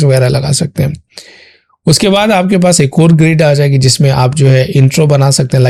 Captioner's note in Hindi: नाक से की जाने वाली आवाज़